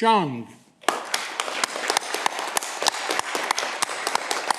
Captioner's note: audience clapping